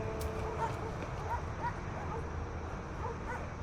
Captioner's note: dog barking